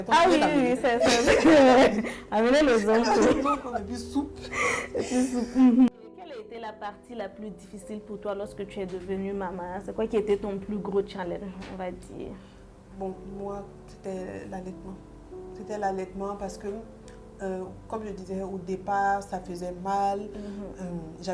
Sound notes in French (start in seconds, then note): 4.5 rires